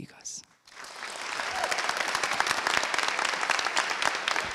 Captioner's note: applause